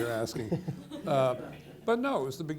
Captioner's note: people laughing